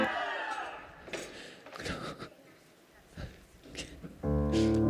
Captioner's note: Leo crying